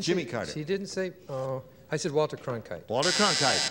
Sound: buzzer

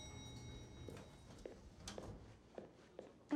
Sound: elevator bell dings

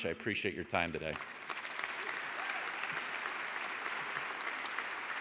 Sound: audience applauding

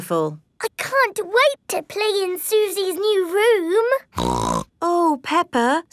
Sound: snorts

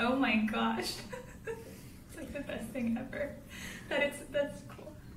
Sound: giggles

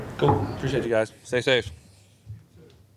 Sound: knocks wood

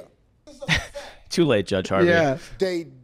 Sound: scoffs

